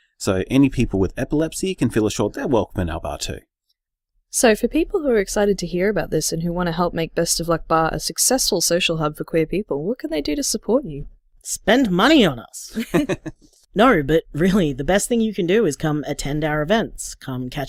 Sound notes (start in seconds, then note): 12.8 everyone laughs